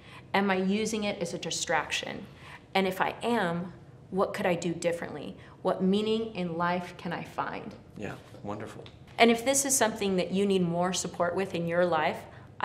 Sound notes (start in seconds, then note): none